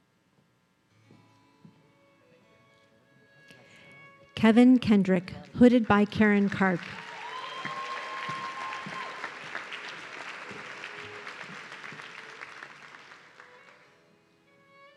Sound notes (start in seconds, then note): 6.4 audience cheering